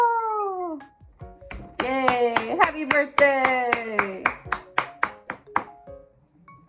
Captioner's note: clapping